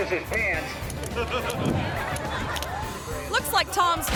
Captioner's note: spectators laughing